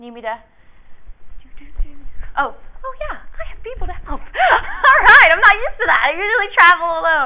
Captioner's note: laughs